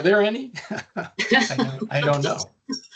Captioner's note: chuckling